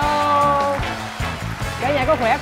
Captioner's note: music+ Applause